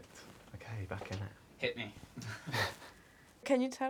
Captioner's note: laughs